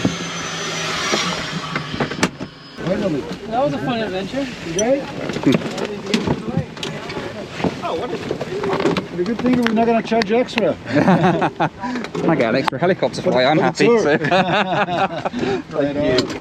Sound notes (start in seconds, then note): 10.8 laughs; 13.9 both laugh